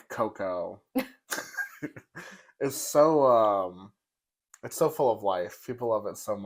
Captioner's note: laugh